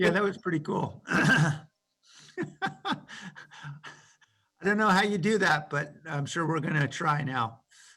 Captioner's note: laughter